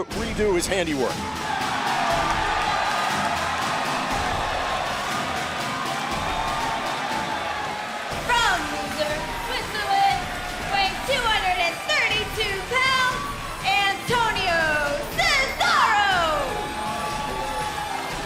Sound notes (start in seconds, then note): 2.2 crowd cheering